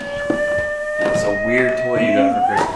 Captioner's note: toy plays sounds